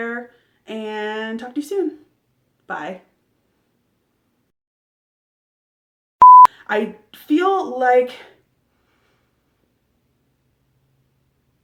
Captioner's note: blooper beep